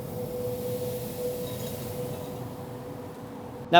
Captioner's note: sizzling